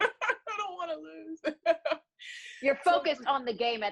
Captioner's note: laughs